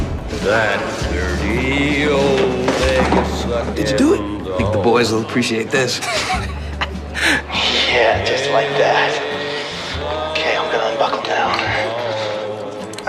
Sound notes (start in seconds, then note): 6.0 over P.A